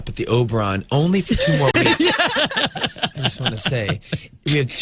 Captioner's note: Uzo and interviewer laugh